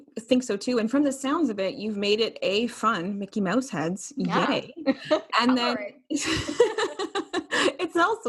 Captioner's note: both laughing